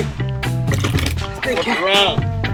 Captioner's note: chair clatters